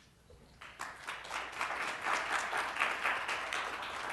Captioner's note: applause